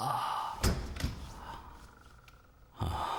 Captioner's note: door Opens